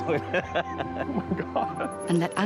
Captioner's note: laughing